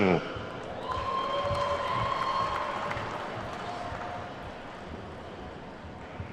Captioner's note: attendees whooping and clapping